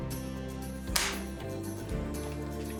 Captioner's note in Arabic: تنقر البندقية فارغة